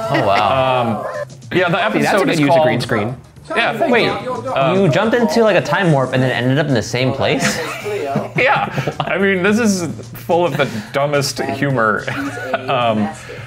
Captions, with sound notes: - Yeah, the episode is called- - That's a good use of green screen. - Wait you jumped into like a time warp and then ended up in the same place? - (laughing) Yeah, I mean this is full of the dumbest humor.